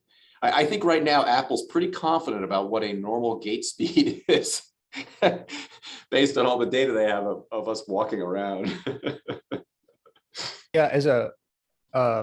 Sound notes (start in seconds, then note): 4.9 laughter; 8.6 laughter